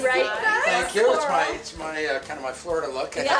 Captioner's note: laughs